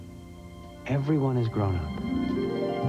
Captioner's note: none